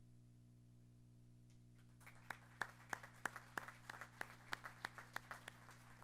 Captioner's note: applause